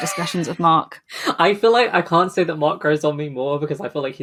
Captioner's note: laughs